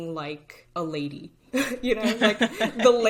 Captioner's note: all laughing